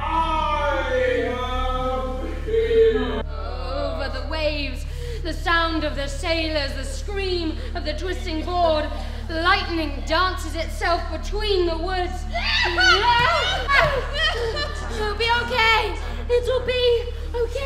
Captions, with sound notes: - I am here! - Over the waves, the sounds of the sailors, the scream of the twisting board, lightning dances itself between the woods. (Amy exclaiming) It'll be okay! It'll be okay!